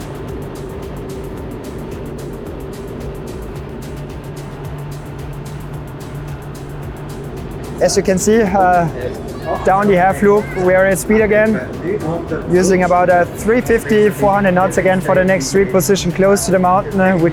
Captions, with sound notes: (engine continues droning) (energetic music continues) As you can see, down the half loop, we are at speed again using about a 350, 400 knots again for the next reposition close to the mountain,